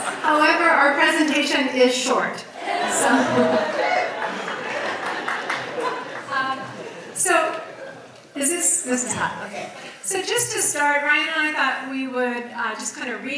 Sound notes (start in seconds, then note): 2.7 audience cheers